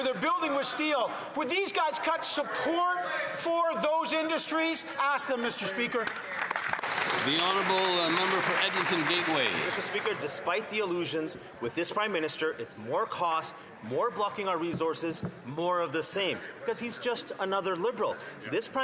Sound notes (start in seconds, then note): 10.7 some Applause